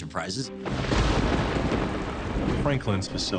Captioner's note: thunderbolt